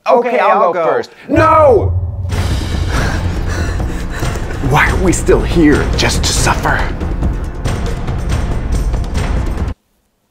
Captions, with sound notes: Okay, I'll go. No! (bold music) (breathing heavily) Why are we still here? Just to suffer! (intense music)